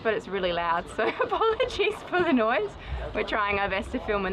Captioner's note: laughs